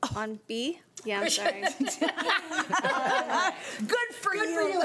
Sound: laughing

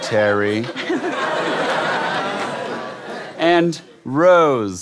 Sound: giggles

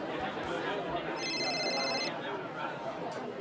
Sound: phone ringing

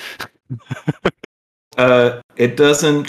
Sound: laughter

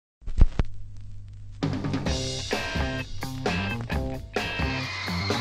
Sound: girls screaming

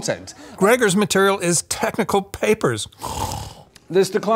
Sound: snores

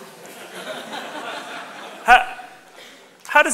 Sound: audience laughs

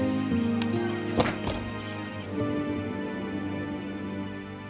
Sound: wooden door slams

